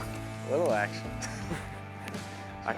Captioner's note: both laugh